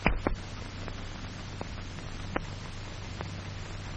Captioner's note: stopwatch ticking